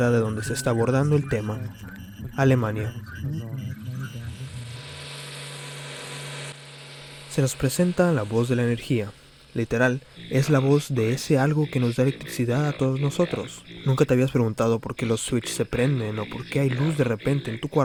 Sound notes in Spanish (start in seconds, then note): 4.3 Sonidos de electricidad